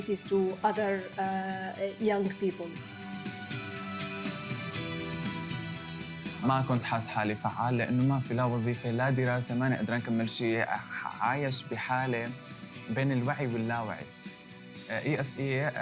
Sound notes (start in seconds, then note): 6.3 non-english speech